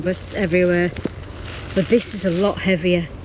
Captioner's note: leaves rustling